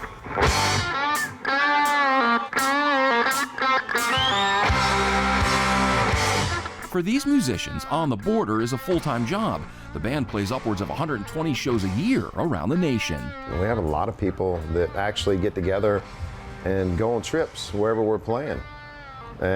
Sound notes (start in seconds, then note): 0.1 upbeat electric guitar music; 3.5 crowd cheering